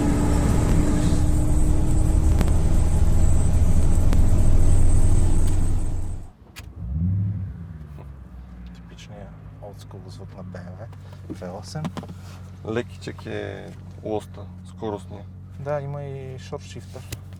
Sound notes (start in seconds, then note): 6.9 nice V8 Rumble